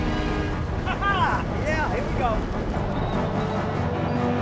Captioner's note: intense, dramatic music; Frank laughs; intense, dramatic music